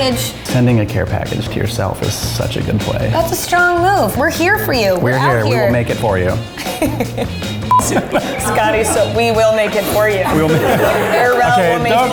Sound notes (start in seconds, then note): 6.4 laughing; 11.1 crew laughing